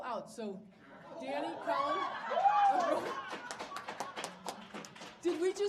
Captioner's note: audience applauding